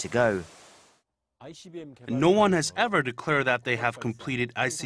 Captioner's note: Korean